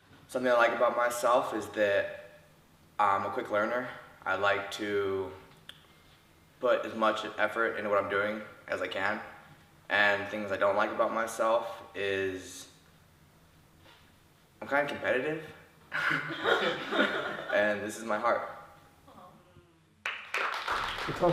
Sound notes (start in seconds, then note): 15.9 laughter